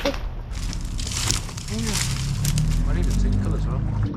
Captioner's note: twigs cracking